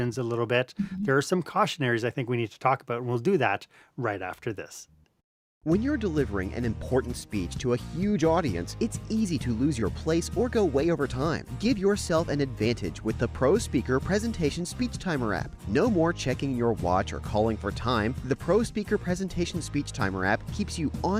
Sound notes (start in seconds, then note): 5.5 voice-over